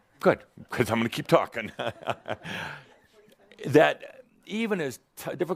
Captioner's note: Adamus chuckles